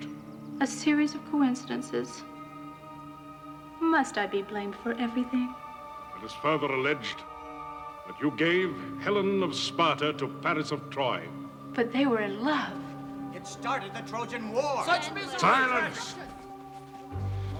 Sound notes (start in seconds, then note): 14.6 indistinct chatter